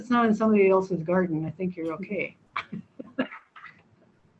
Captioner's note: laughs